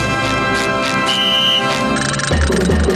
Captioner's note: whistling